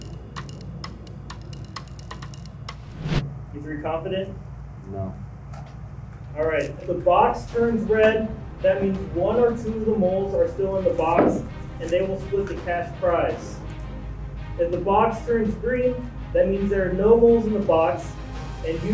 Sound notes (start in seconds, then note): 0.0 percussion music; 2.8 wind whooshing